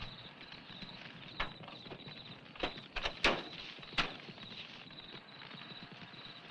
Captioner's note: insects chirping; fire crackling